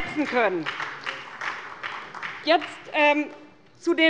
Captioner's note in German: Beifall bei der SPD